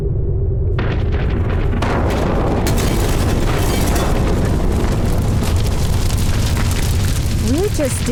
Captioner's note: a crash